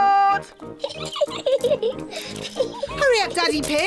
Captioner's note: giggling